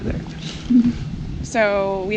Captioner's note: chuckles